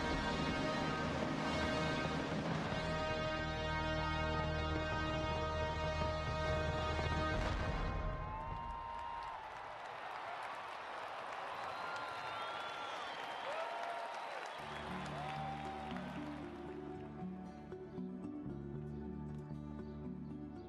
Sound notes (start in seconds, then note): 7.6 music ends; 9.7 cheering and applause